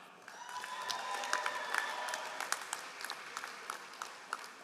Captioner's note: all applauding